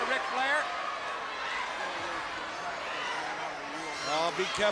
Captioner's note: crowd cheering